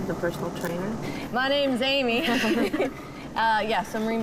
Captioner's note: laughs